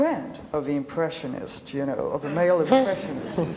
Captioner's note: laughs